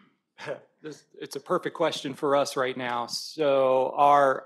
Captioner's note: chuckles